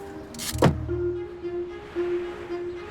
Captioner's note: car door banging; gentle apprehensive music